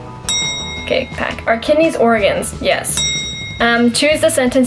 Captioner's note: bell ring